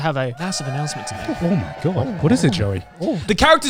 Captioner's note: crowd cheering